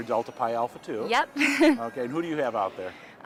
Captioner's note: chuckling